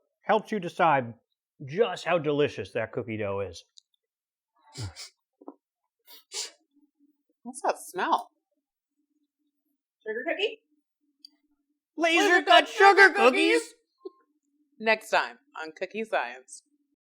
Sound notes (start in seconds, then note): 4.7 sniffs